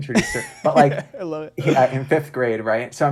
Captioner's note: laughs